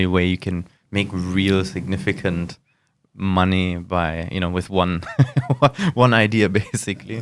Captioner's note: laughs